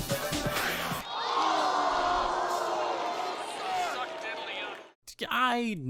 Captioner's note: crowd booing